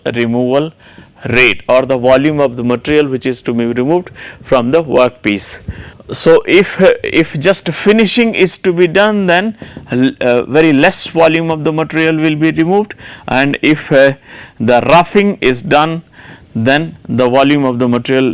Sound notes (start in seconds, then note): 9.5 roughing